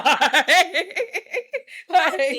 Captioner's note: laughs